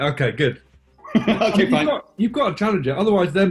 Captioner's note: laughing